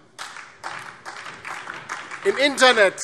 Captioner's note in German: Beifall DIE LINKE und vereinzelt SPD